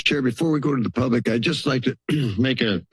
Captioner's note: clears throat